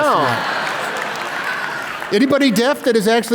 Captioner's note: laughter